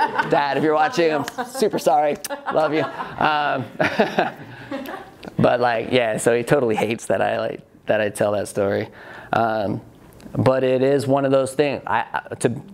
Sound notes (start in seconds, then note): 0.0 laughs; 2.3 smacks kiss; 4.0 and student laugh